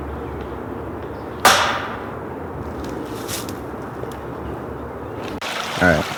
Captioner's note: banging sound